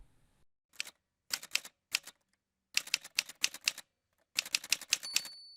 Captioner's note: typewriter sounds